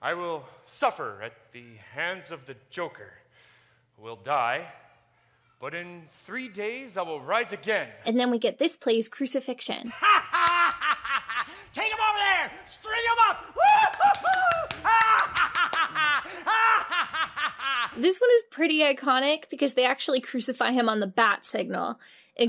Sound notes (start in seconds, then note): 9.9 Joker laughing; 13.6 laughing